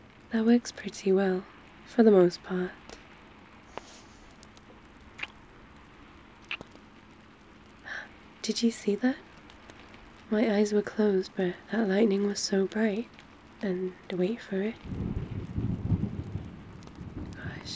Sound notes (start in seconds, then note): 4.7 kiss; 7.9 gasps; 14.7 thunder rolls